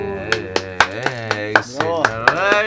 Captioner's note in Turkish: alkış sesi